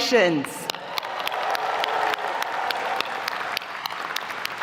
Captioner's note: audience applauding